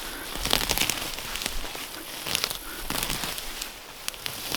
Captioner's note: roots tearing